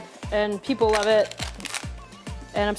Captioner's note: crust crunches